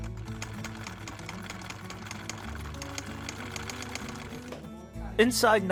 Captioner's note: sewing machine whirring